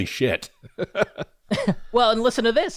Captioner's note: laugh